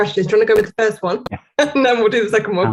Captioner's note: laughs